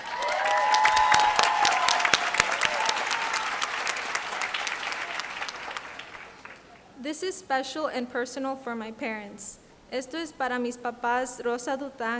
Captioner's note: applause